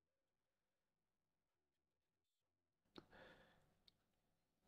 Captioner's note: silence